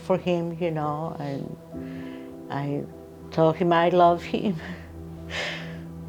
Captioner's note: sobs